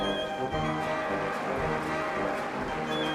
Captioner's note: applause